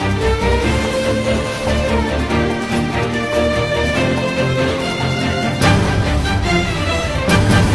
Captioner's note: clap